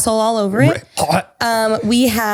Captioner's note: gags